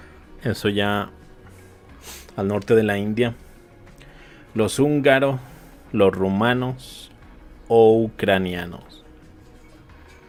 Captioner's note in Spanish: resoplido